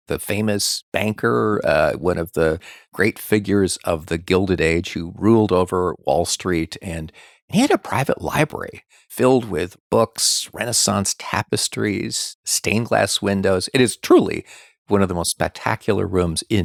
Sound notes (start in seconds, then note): none